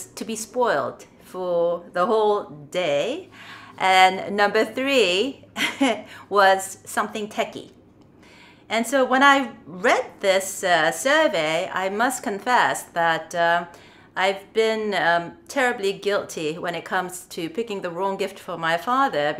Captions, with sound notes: "to be spoilt for the whole day," and Number 3, [Chuckles] "something techy." And so when I read this survey, I must confess that I've been terribly guilty when it comes to picking the wrong gift for my father